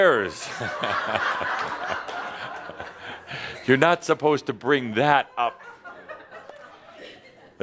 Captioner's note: more laughter